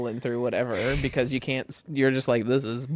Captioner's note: laughs